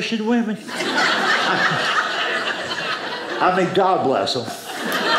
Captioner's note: audience laughing